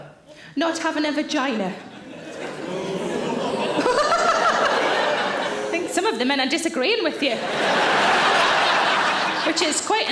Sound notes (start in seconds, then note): 2.4 audience boos; 2.7 Sarah laughs; 7.1 audience laughs